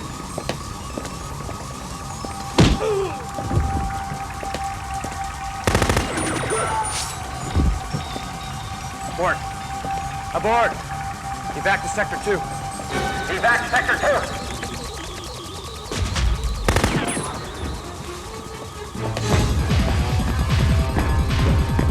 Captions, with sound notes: (alarm wailing) (tech grunts) (machine gun firing) (guard screams) - Abort. Abort! Evac to sector two. Evac to sector two! (tense music) (machine gun firing)